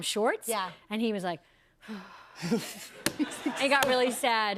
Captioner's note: sighs